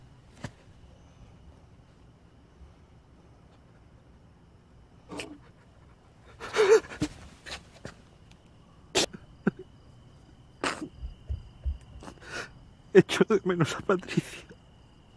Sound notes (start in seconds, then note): 6.1 paco sobs; 12.9 crying